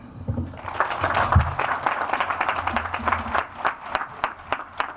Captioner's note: audience applauds